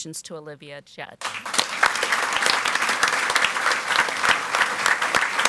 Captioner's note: audience applauds